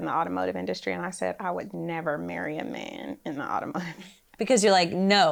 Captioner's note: laughs